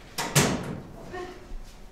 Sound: locker doors creak

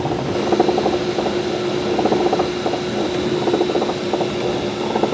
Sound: machinery continues whirring

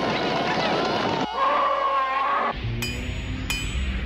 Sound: roars

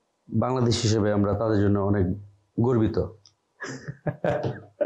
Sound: laughter

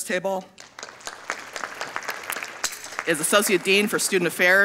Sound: audience applauding

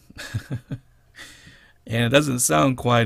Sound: laughter

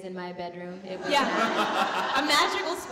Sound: audience laughing

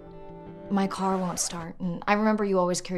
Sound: record scratching

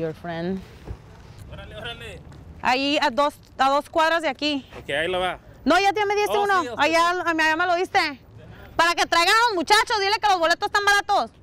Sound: talking in Spanish

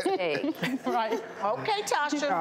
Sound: laughing

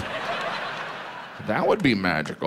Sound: audience laughs

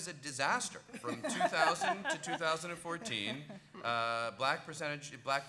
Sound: laughing

